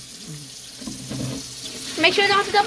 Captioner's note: dad dumping water